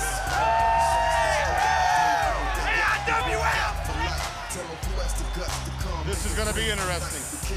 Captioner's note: crowd cheering